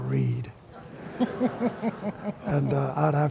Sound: laughter

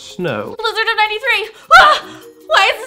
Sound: screams

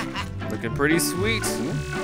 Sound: voiceover

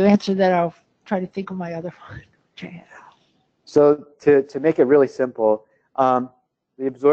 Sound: laugh

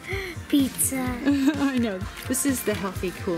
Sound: laughs

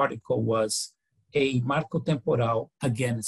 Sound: foreign language

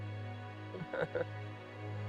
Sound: laughter

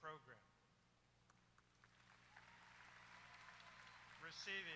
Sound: applause

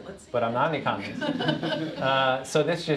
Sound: laughter

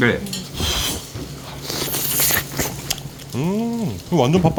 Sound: slurps

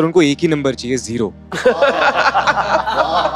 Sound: all laughing

